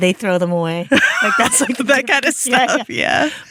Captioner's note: both laughing